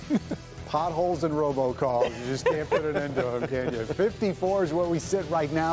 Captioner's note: laughter; laughter